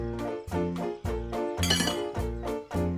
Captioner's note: clanks